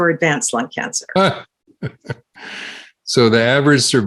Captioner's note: chuckles